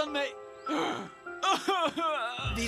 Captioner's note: moaning